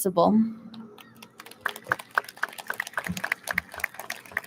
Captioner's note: audience claps